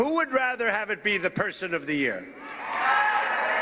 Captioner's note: audience reacts